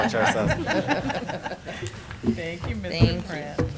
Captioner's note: laughing